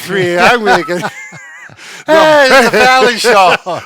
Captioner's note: laughing